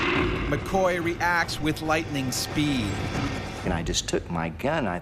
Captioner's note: voiceover